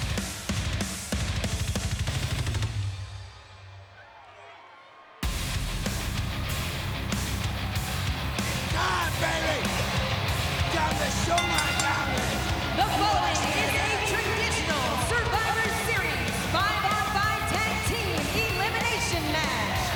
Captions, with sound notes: (upbeat metal music continues) It's time, baby! Time to show my talent! (bell rings) The following is a Traditional Survivor Series Five On Five Tag Team Elimination match.